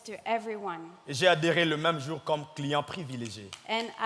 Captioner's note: speaking in French